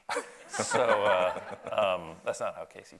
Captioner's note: audience laughs